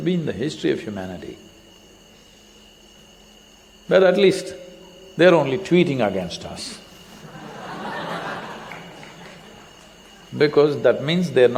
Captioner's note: laughter